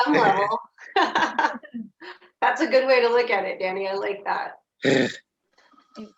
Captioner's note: laughing